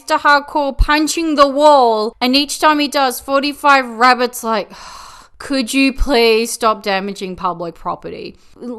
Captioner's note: sigh